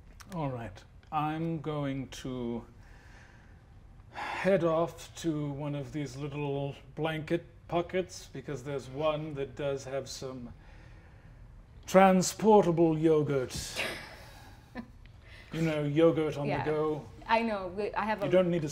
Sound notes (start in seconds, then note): 13.8 chuckles